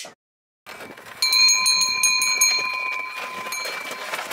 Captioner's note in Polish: dźwięk dzwonków